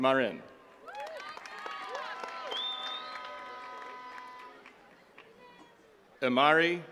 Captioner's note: attendees cheering and clapping